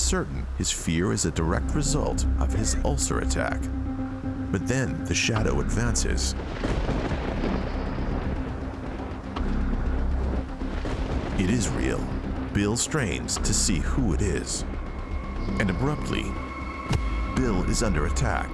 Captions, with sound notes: his fear is a direct result of his ulcer attack but then the shadow advances. (thunder booming) It is real. Bill strains to see who it is, and abruptly, Bill is under attack.